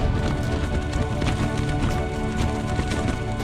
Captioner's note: strong winds, rattling